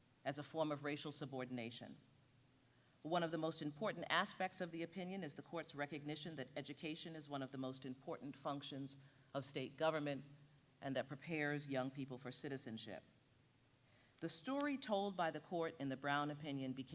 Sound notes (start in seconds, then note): none